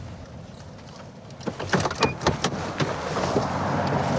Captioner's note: car door opens